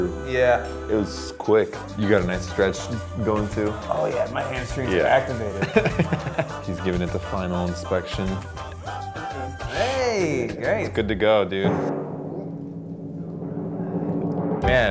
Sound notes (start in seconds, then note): 5.4 laughs; 11.6 suspenseful drum roll